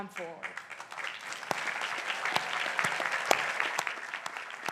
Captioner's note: crowd applauding